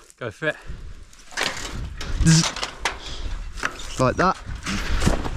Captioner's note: wire clanking; buzzing